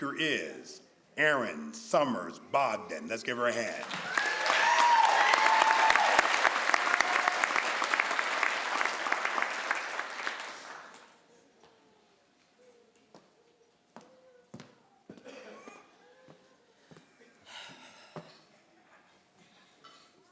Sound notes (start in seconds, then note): 5.3 crowd applauds